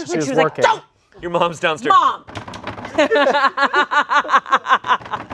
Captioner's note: laughing